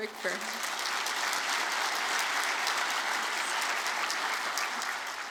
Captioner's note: audience applauding